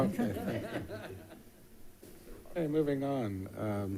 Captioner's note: board members laughing